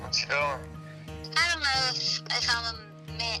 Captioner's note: on phone